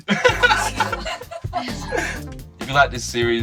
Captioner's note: laughs